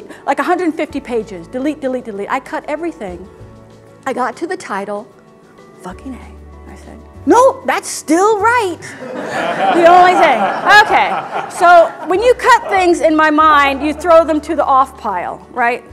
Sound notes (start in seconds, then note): 8.8 laughter